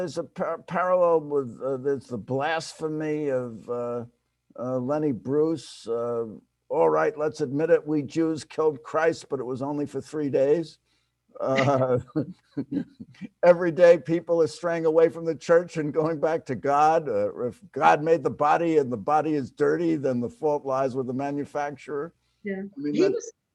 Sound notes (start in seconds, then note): 11.4 laughs